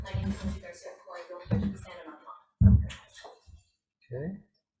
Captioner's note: speaks faintly over Zoom